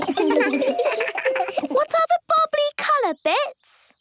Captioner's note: giggles